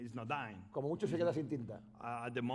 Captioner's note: speaking spanish